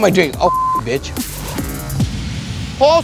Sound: beep

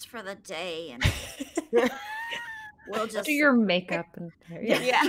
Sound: laughter

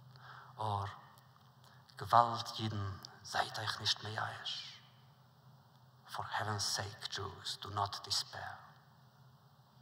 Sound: Yiddish

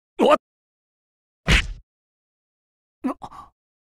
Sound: thud

